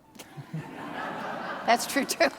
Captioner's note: audience laughing